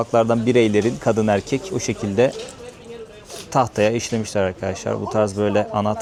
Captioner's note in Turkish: homurdanır